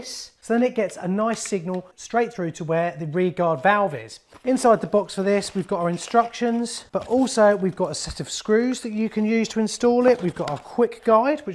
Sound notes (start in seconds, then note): 5.3 rummaging